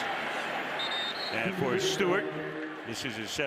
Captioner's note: whistle